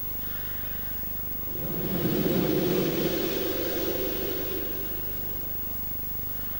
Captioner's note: blows into the microphone